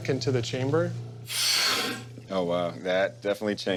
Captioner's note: air pressurizing